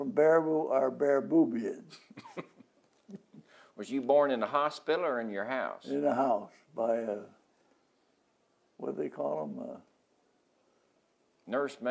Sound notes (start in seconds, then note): 1.8 laughs